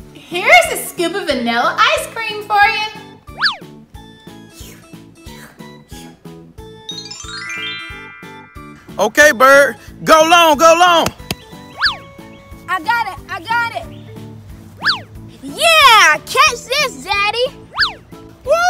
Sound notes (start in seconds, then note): 4.4 tongue slurping; 6.9 magic twinkling